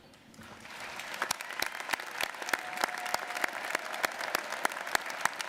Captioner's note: audience applauding